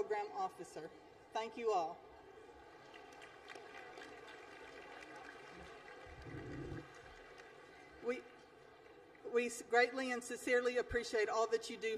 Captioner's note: applause